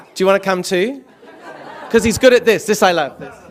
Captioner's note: laughter